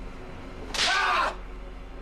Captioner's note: screams